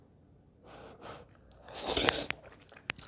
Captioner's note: slurp